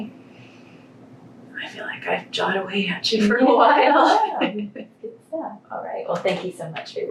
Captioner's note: laughter